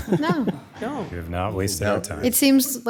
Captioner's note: laughing